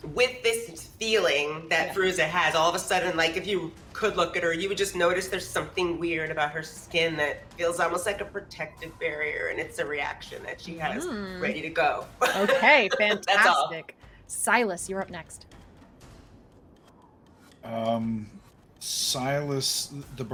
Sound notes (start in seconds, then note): 12.2 laughs; 16.3 dramatic music continues